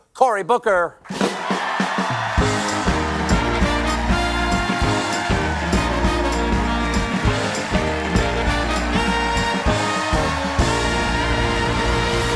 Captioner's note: cheers and applause